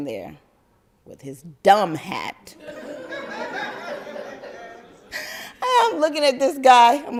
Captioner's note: crowd laugther